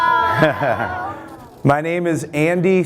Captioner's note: laughing